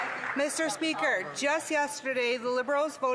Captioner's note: mixed voices